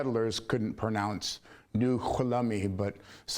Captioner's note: speaking foreign language